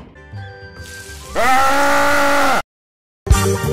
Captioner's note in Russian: крики